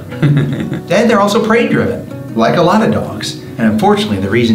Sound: laughs

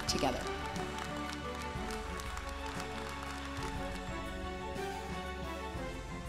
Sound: uplifting music; audience applauds

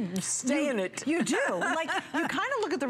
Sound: laughter

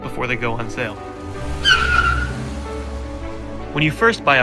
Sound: tires screeching

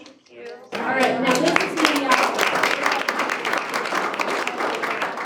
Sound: group applauds

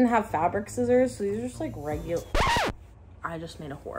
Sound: record scratch

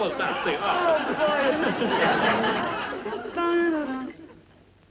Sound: audience laughs

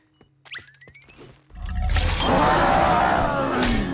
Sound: growling

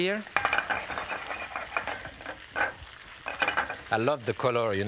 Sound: shaking pan

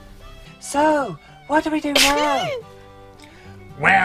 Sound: Billy sneezing

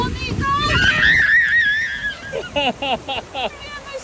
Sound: baby screams

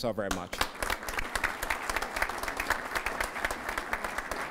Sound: applause

